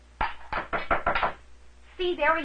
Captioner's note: knocking at door